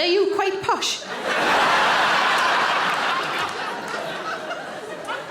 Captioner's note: audience laughing